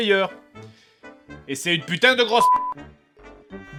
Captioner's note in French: bip